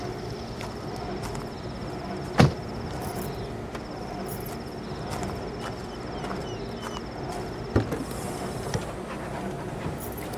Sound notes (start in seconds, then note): 0.7 footsteps; 2.4 car door closes; 3.0 car keys jingling; 5.3 footsteps; 6.2 birds chirping; 7.7 car trunk opens; 9.5 dog panting